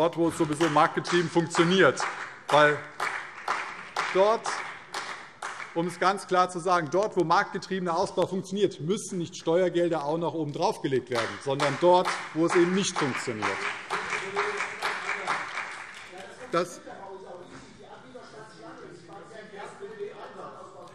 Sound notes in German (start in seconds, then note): 2.3 Beifall CDU und vereinzelt BÜNDNIS 90/DIE GRÜNEN